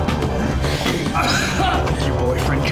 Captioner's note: groaning